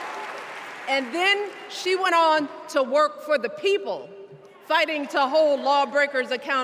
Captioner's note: cheers and applause